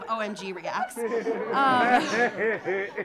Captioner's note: audience laughing